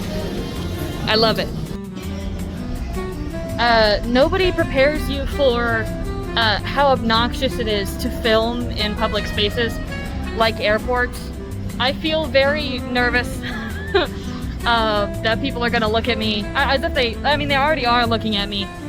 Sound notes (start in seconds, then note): 13.4 laughs